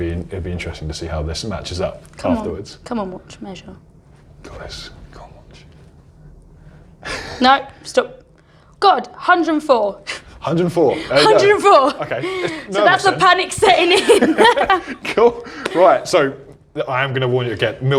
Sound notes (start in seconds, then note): 7.0 laughs; 13.6 laughs